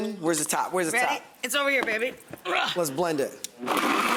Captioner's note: groans